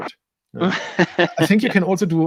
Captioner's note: laughing